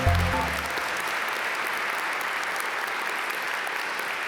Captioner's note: instrumental music; audience applaud